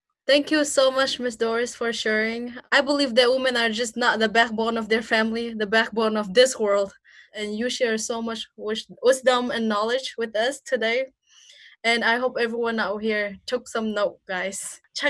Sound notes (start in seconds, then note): none